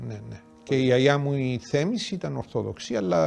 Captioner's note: murmuring